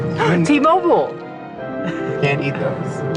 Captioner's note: gasp